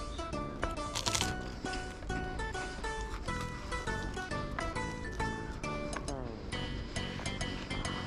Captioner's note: buzzing, munching